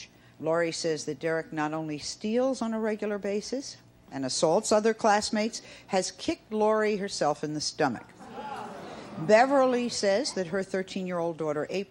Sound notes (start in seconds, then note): 8.2 audience gasping